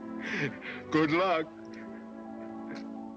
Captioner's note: chuckling